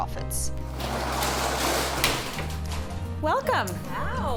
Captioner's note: metal clanging